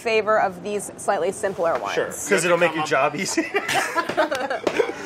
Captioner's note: laughs